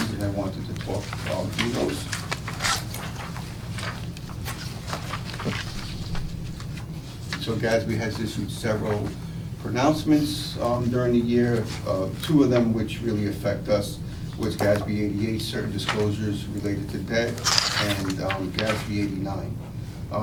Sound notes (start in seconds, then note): 2.4 papers rustling